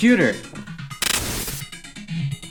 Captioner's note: Glitch